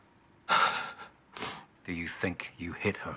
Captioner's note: Mack sighs